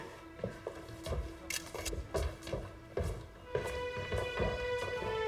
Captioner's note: camera shutter clicking; dramatic orchestral music